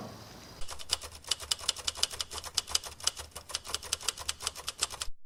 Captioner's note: typewriter clicking